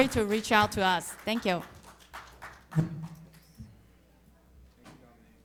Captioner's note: audience applauding